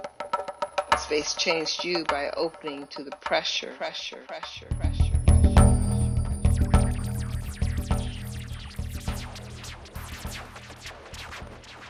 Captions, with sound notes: Space changed you by opening to the pressure, pressure, pressure, pressure (echoes) (bells chime)